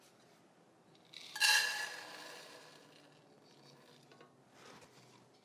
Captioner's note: elderberries rattle